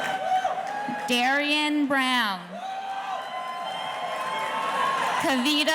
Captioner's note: audience cheering